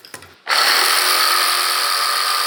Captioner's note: loud roaring of the saw